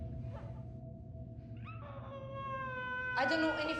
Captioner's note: baby cries